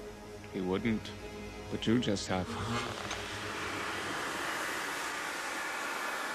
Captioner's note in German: Dampfzischen